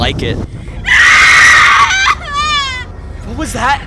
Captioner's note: anonymous screaming